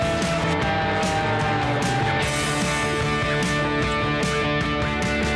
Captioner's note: airplane whooshing